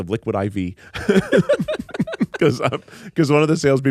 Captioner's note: everyone laughs